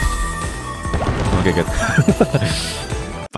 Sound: laughs

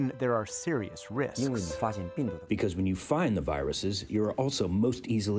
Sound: through translator

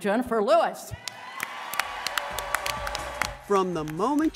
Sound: audience applauding

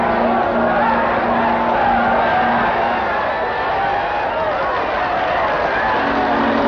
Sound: cheering

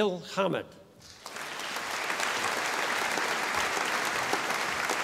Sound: audience applauding

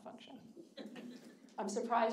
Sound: audience laughing

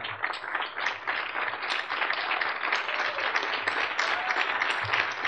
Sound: audience clapping

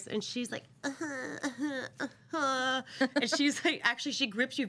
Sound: coughs lightly

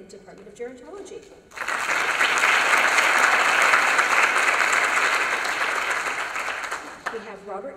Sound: applause

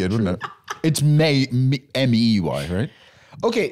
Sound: laughing

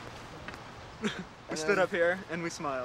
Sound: laughs

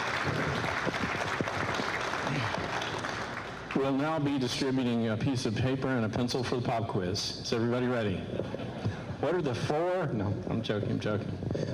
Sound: applause

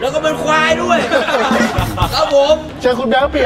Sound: laughs

